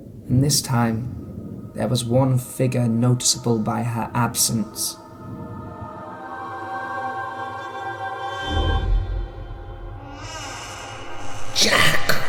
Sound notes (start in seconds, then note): 9.5 gates creak open; 11.5 Julia Stone rasping